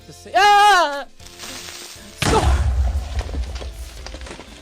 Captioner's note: explosion noise